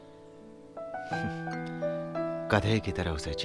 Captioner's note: Scoffs